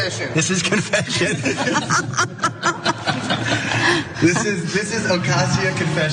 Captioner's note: laugh